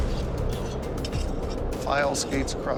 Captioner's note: scraping